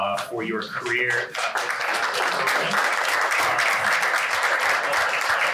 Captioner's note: applause